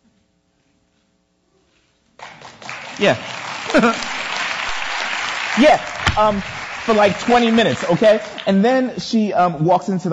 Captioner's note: audience applause